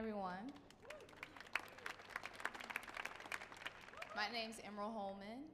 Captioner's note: audience clapping; audience cheering